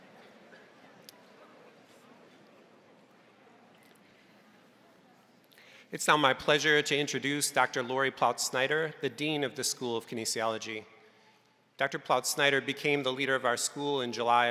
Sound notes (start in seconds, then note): none